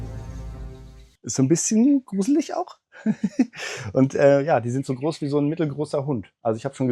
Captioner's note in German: gelächter